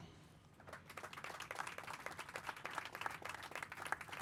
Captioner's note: crowd applauding